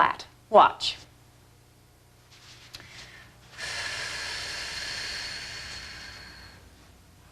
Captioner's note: breathing